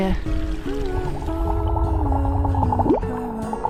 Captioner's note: bubbles